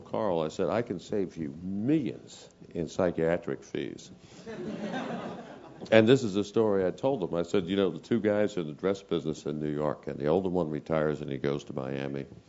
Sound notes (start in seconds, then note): 4.4 laugh